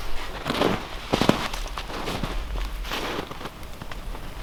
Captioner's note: snow crunching